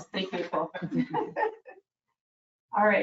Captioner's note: people chuckle